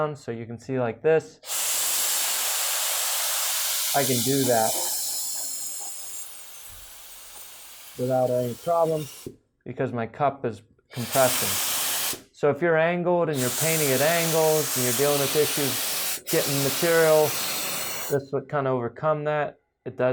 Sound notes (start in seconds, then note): 1.4 loud spraying; 5.1 soft spraying; 10.9 loud spraying